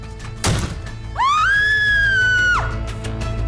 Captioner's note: yell